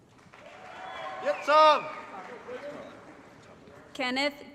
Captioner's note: applause & Cheering